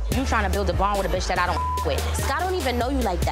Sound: beep

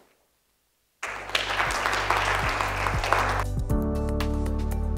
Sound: audience applauds; gentle music

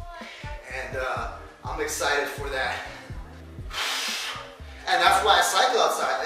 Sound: exhales

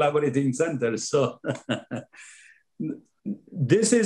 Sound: laughing

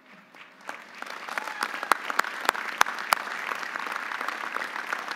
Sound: audience applauding

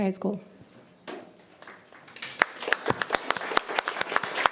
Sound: applause

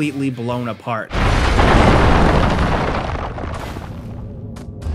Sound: explosion rumbling

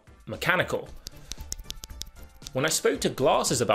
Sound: switch clicking

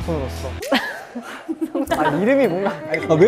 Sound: chuckling

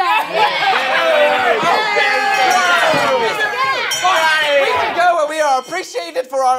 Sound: all booing

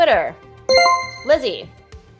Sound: chime rings

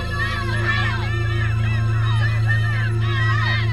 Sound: crowd yelling

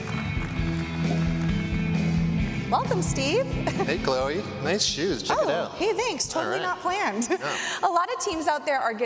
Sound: applause

